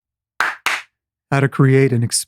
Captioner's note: clapping